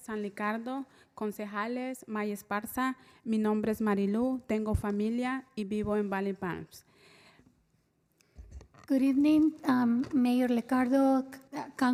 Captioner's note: spanish